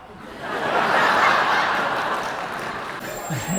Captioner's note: audience laughs